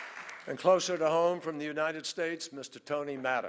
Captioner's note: applause